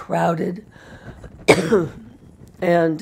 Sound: coughs

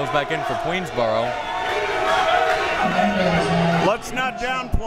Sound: crowd members shouting

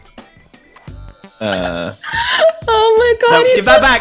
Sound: laughs

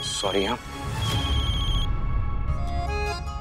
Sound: phone ringing

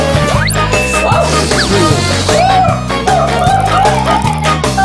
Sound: ballon deflating

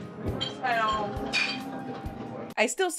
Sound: soft upbeat music; people chatter indistinctly

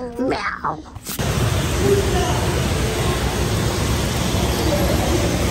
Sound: airy white noise rambling

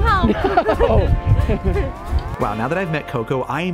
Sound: laughing

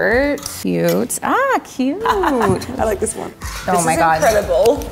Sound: laughs

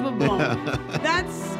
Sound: host laughing

